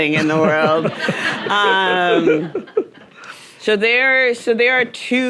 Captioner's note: audience laughing